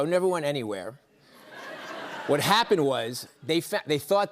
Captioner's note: laughter